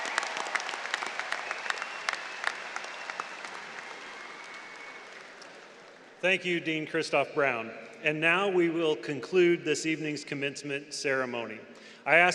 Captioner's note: applause